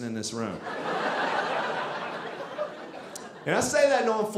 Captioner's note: audience laughing